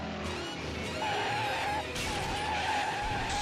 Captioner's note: breaks screeching